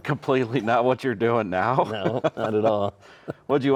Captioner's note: chuckling